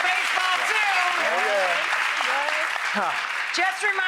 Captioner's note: clapping